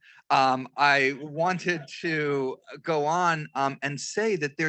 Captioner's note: crowd softly chuckles